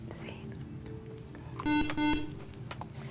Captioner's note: buzzer